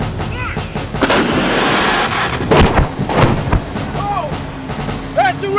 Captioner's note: gunfire banging